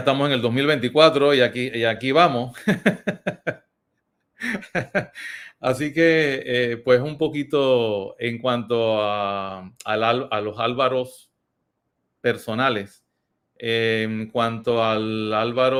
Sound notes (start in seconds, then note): 2.4 laughs